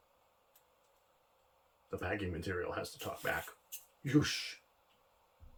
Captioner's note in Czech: mimo záběr se ozve krátké syčivé zvuky